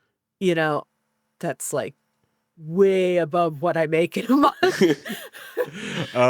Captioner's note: laughs